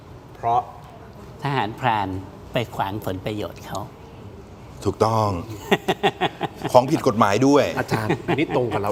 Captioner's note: laughs